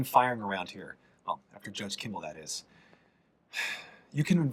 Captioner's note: sighs